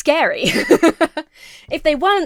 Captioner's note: laughs